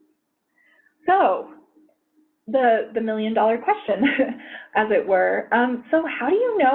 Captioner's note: chuckles